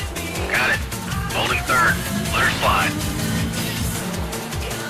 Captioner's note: focused, voice calm but intense